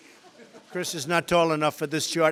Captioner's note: laughter